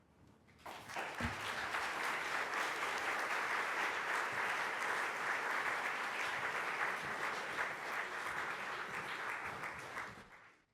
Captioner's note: applause